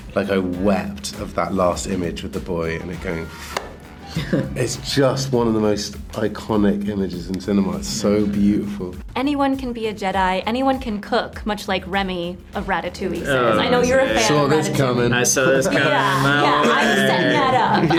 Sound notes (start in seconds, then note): 3.5 Josh claps; 4.0 Rian laughs